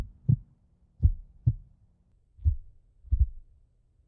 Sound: heartbeat slows

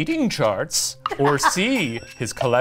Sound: laughs

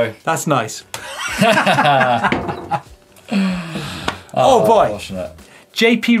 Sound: laughs

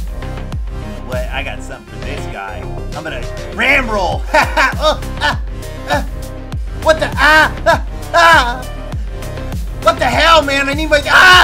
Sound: anime surprise sounds

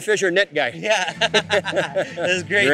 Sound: laughing

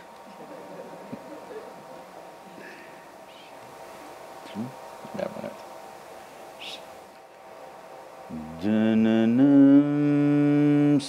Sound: Sadhguru laughs

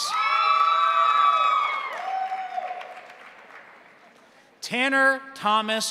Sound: crowd cheering; crowd applauding

